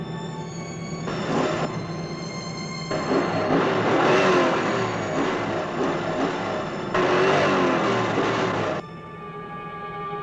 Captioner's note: worrying music; accelerating engine